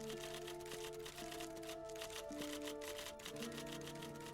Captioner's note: typewriter keys clicking